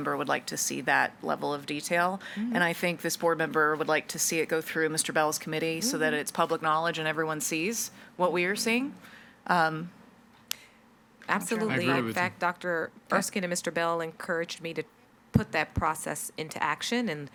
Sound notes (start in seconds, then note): 11.4 group chattering